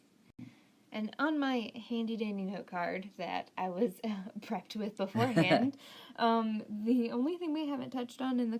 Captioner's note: laughing